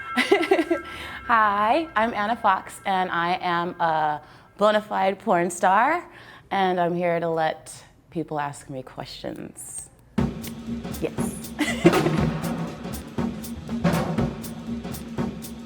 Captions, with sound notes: - Hi, I'm Ana Foxxx and I am a bonafide porn star, and I'm here to let people ask me questions. Yes. (chuckles) (upbeat music)